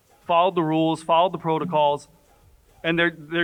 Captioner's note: none